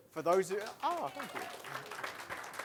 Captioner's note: applause